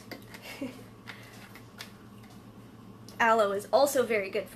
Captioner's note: laughs